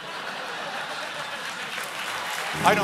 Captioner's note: laughter; applause